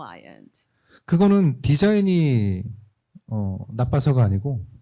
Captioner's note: speaking korean